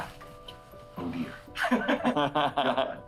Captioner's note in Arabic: يضحك